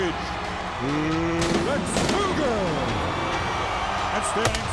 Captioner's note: firecrackers exploding